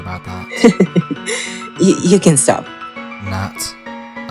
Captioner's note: chuckles